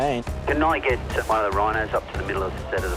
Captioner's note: voice on radio